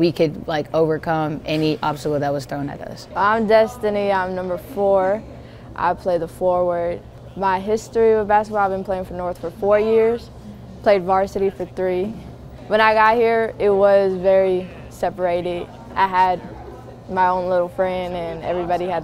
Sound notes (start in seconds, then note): none